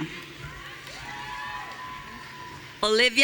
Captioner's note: audience cheering